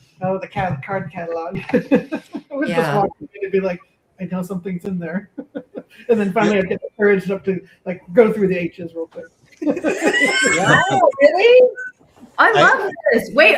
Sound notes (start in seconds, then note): 1.5 laughs; 9.6 laughter